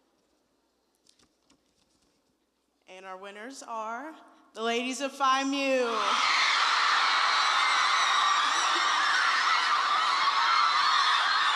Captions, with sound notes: and our winners are the ladies of Phi Mu [cheering wildly!]